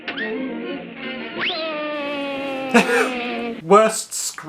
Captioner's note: screams